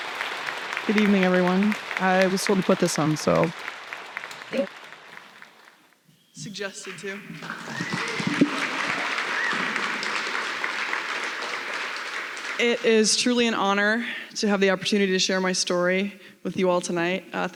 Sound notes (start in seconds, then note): 7.9 applause